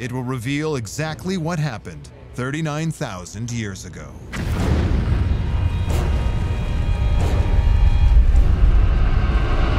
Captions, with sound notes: it will reveal exactly what happened 39,000 years ago. [deep rumble] [eerie music]